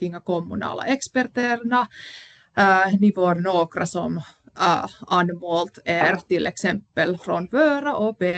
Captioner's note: puhuu ruotsia